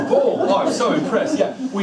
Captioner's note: group laughs